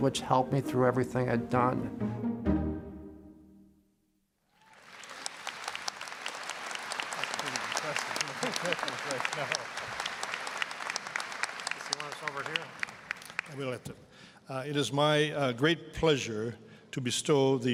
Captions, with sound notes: which helped me through everything I'd done. (applause) >> It is my great pleasure to bestow